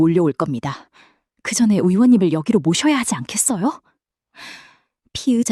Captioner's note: sigh